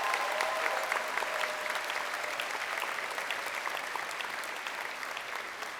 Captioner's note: crowd applauding and cheering